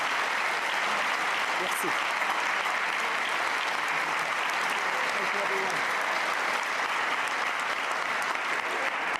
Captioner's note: applause